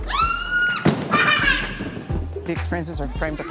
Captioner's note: child screaming, laughing